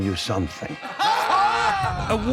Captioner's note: laughing